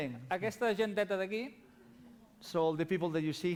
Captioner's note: non-english speech